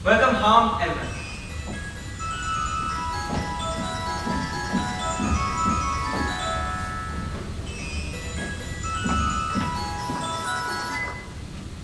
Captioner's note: Sophia's phone rings